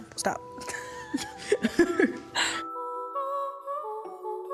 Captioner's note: laughter